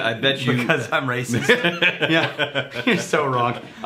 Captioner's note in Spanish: Riéndose